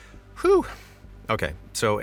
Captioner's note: sigh of relief